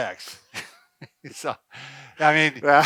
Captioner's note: both laughing